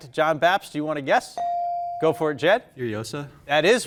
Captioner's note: bell dinging